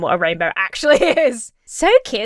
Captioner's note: Emma laughs